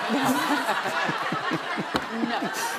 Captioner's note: laughter